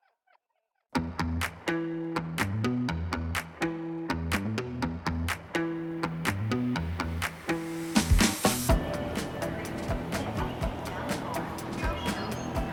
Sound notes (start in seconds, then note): 8.6 train station ambience